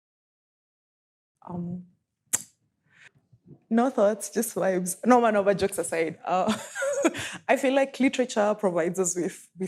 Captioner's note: chuckles